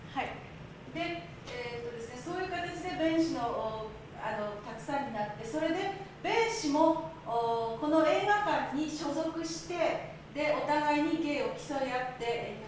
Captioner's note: speaking Japanes